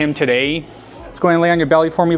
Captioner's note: atmosphere humming softly